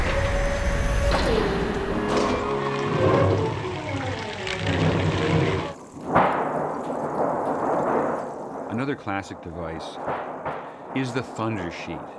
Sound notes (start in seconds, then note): 0.0 siren blaring; 2.6 thunder rumbling; 5.8 thunder clapping